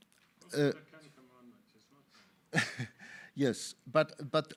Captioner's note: faintly talking